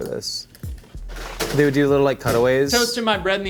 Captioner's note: oven door slamming